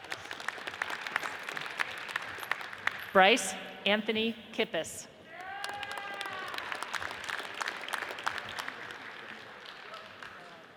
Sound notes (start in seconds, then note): 0.0 audience applauds; 5.3 audience cheers and applauds